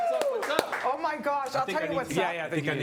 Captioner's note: cheering and Applause